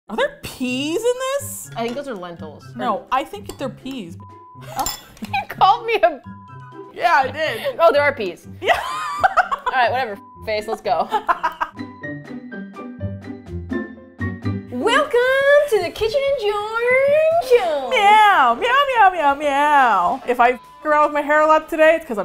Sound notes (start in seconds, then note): 8.6 laughs; 12.0 plunky music